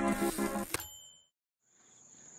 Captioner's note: typewriter dings; nature sounds